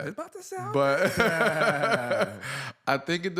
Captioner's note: laughter